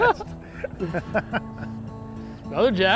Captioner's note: laughing